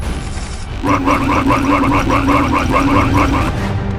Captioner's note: chef droids repeatedly shouting "RUN RUN RUN"